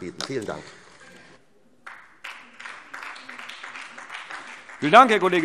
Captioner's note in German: Beifall SPD